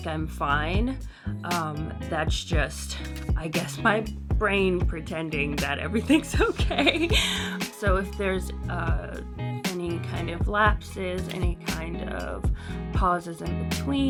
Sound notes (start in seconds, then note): 6.4 laughs